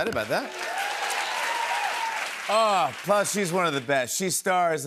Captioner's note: cheers and applause